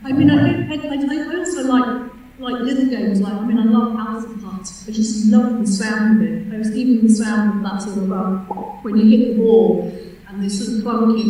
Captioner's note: pop of mouth sound